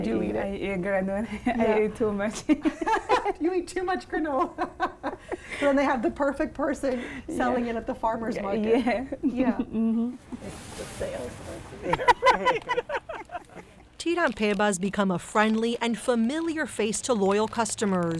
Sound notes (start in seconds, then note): 0.7 chuckles; 2.5 both laughing; 9.1 chuckles; 11.8 all laughing